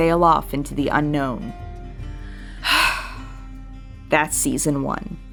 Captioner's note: big Exhale